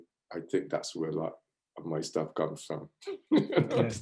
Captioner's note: laughs